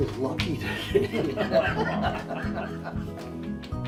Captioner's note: laughs